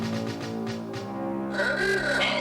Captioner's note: horn honks